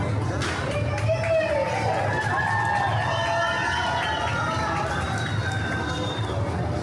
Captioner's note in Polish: Aplauz